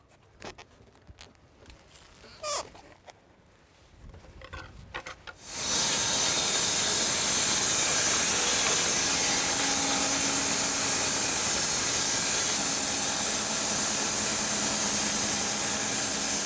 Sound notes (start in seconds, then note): 5.7 blade sawing